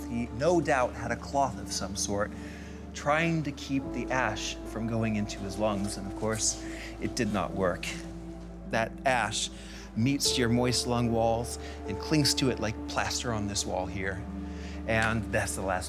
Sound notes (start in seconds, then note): none